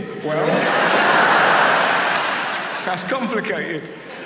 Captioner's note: audience laughs